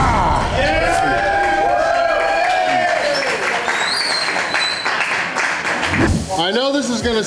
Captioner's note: crowd clapping and cheering